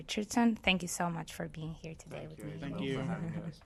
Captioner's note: chuckles